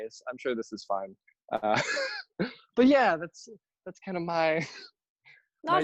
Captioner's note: nervous laughter